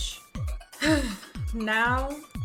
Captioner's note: sigh